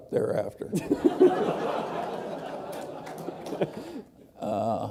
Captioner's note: laughter